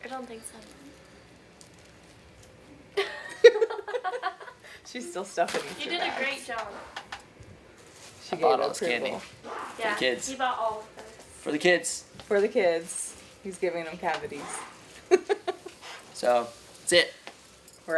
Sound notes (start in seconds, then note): 3.0 laughing